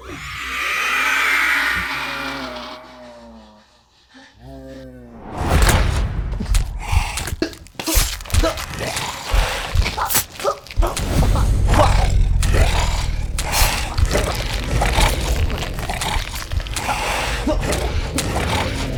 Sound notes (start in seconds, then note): 0.0 creature screeching; 5.9 man grunting; 5.9 ominous music